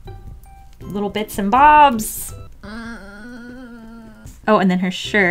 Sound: moans

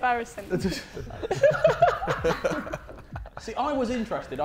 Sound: Sidemen laughing

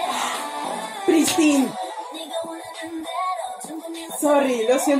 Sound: gasp in kpop

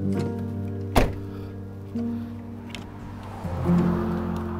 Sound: car door closes

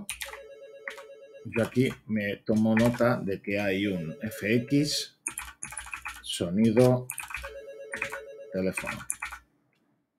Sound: fx_sound_telephone

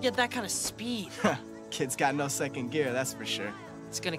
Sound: laughs

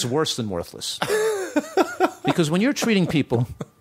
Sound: laughter

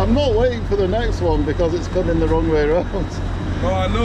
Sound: chuckling

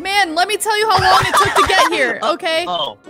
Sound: laughing

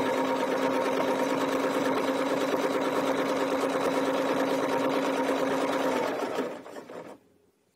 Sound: sewing machine whirring

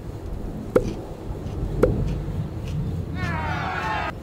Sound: food crunching

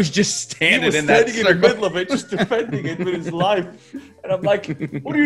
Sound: laugh

